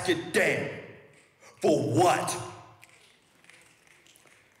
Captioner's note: audience members snap fingers